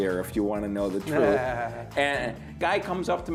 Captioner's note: laughs